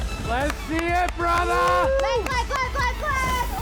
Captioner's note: cheering